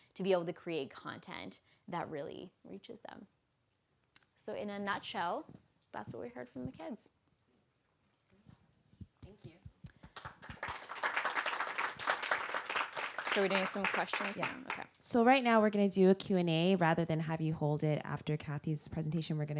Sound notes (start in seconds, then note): 8.7 voiceover; 9.9 applause